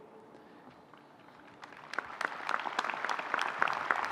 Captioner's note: applause